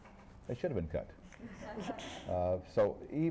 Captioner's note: laughter